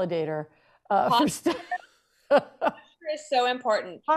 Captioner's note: laughs